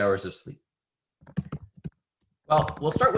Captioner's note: typing